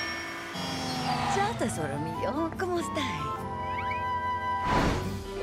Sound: speaking Italian

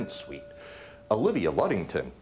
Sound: bell ringing

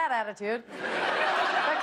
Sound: laughter

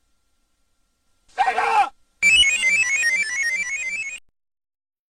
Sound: scared; 16-bit descending video game sounds; silence

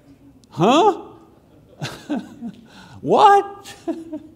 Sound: chuckles; chuckles

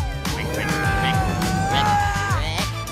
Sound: grunting

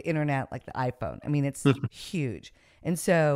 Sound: chuckles

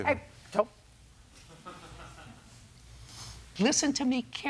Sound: laughter

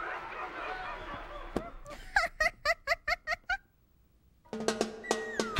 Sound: laughing

